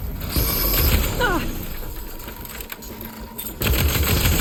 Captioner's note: Aloy grunting